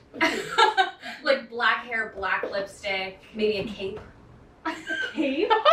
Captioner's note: laughs